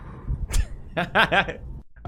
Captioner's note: laughing